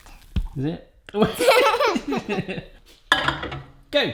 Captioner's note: laughs